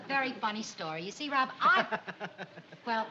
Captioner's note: laughs